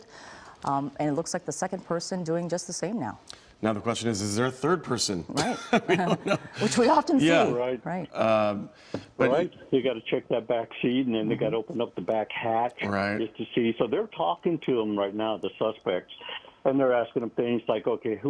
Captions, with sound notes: CASE. THEY ARE AVOIDING OBEYING ORDERS PRETTY WELL. IT LOOKS LIKE THE SECOND PERSON IS DOING THE SAME. THE QUESTION IS, IS THERE A [LAUGHTER] WE'VE GOT TO CHECK THE